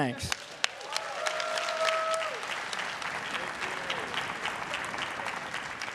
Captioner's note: everyone cheering and applauding